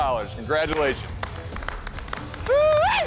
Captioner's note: applause